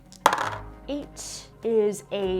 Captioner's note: dice clunking on whiteboard